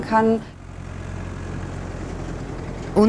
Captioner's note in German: Rauschen